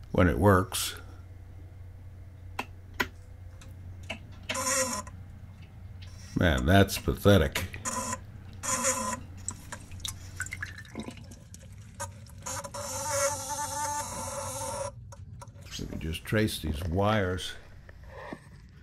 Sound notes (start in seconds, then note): 10.1 weak buzzing